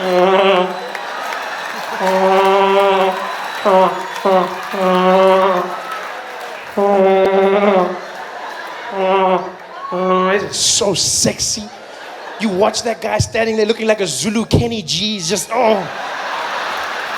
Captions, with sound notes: *sound of a vuvuzela* *sound of a vuvuzela* It’s so sexy. You watch that guy standing there looking like a Zulu Kenny G.